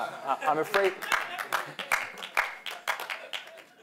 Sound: applause

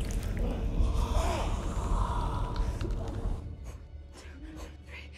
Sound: Francis grunting

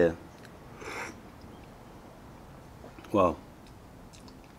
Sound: sips tea

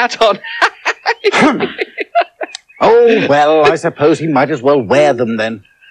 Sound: laughs More

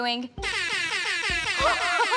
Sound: air horn

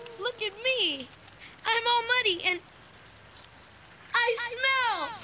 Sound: sniffing

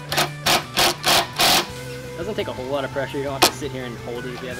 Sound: loud drilling

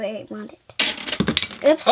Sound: pieces crash

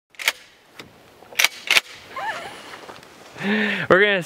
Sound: slingshot clicking

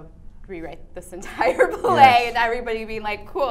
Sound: laughs

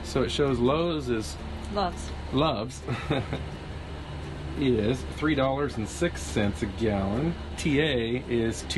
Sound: laughing

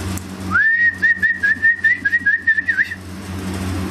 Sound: whistles

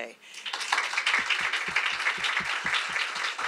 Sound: applause

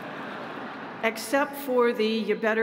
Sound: audience laughing

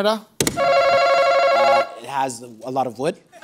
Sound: answer button rings

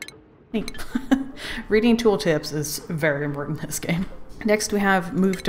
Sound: laughs

